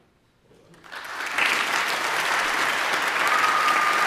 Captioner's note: audience applauding; audience cheering